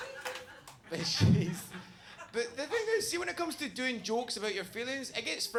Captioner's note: laughs